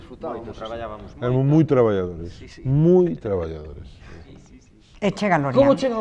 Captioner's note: laughs